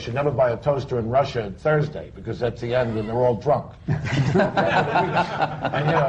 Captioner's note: laughter